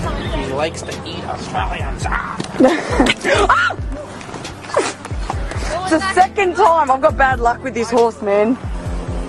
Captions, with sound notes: He likes to eat Australians - argh! [laughter] [bite] (scream) It's the second time! I've got bad luck with this horse man!